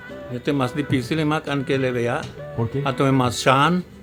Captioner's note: speaking Spanish; speaking Mayan